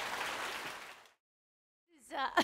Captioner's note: laughter